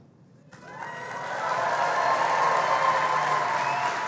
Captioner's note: cheering